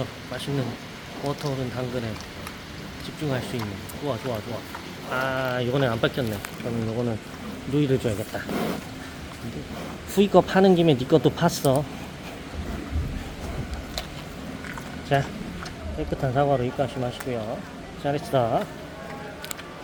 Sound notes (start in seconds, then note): 2.2 nyam nyam